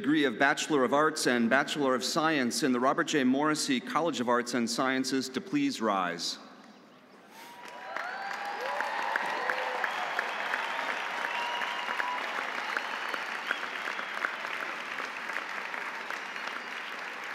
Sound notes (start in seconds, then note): 7.3 audience applauding; 7.4 audience cheering